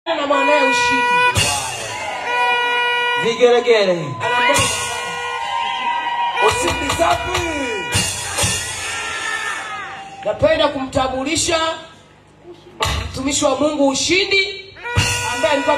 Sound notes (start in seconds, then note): 2.5 cheers; 4.8 cheers